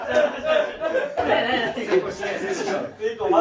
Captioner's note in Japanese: 笑い